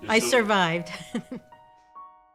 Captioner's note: laughing